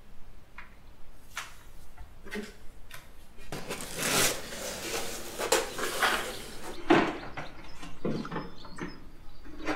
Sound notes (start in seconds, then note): 0.0 footsteps; 3.5 boxes opening